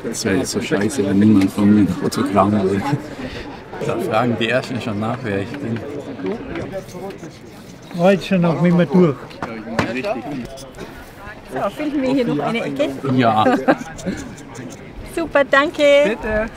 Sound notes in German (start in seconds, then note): 6.4 Gemurmel